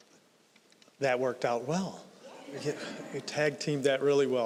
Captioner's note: audience laughing